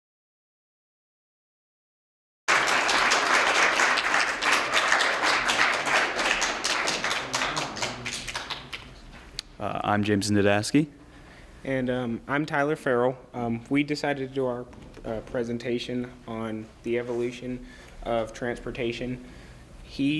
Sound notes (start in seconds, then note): 2.4 applause